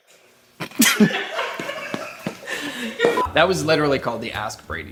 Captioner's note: laughter